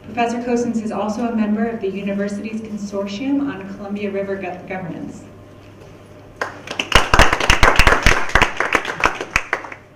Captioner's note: clapping